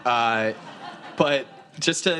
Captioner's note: students laughing